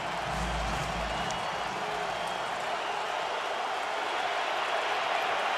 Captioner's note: cheering